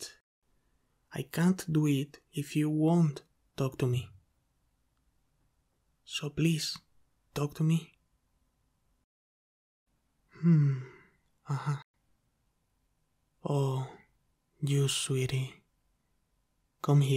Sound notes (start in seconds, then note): 5.1 pause